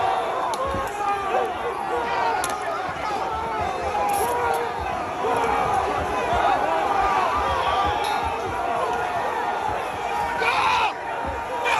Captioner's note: shouting